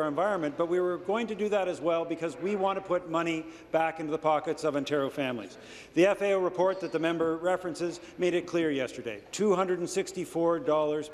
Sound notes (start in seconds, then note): none